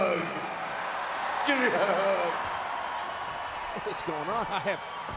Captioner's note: crowd cheering